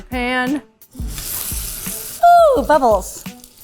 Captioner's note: pan sizzles